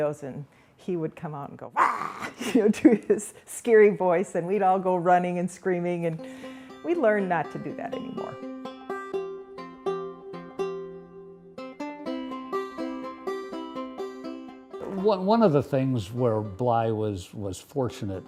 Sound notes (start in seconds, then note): 1.8 laughs; 8.6 acoustic guitar music